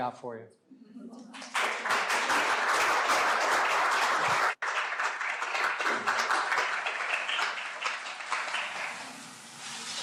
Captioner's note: applause